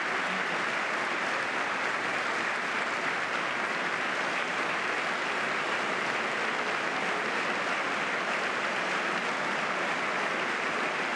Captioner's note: applause